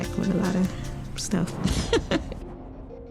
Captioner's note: giggles